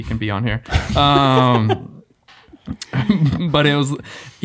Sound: group laughing

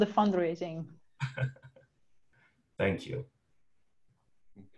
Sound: chuckles

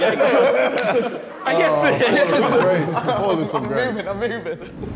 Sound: Sidemen laughing

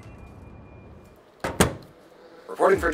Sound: music stops, door closing SFX

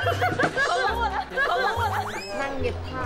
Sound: secretly laughing

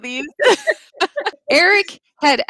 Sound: laughing

